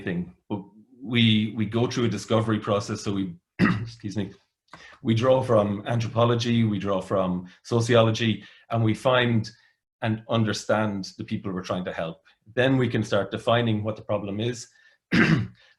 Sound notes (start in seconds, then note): 3.6 clears throat